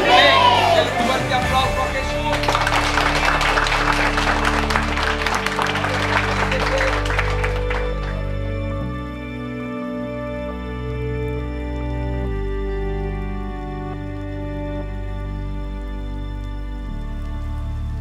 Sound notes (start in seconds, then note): 1.7 applause; 7.4 soft gentle music